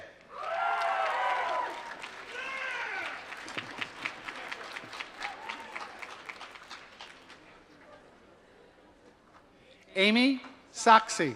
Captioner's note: applause